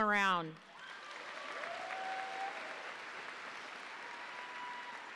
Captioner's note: audience applauding